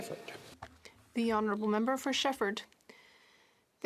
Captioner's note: speaking French